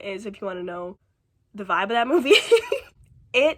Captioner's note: laughs